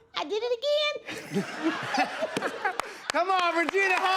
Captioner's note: laughs